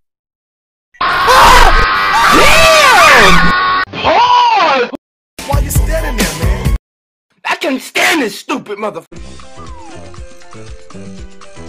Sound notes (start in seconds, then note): 1.0 Deep FNAF Scream; 1.0 screaming